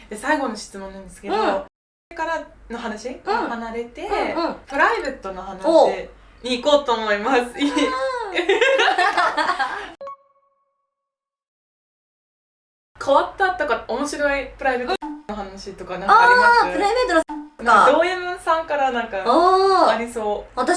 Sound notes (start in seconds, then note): 7.6 laughs